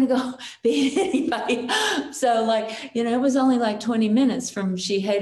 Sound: chuckles

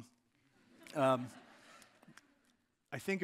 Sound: audience laughing

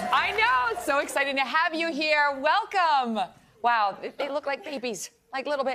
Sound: applause

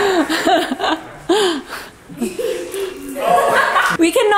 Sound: laughing

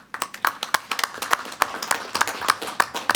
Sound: applause

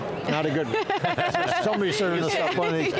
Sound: laughing

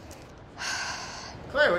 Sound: sighs

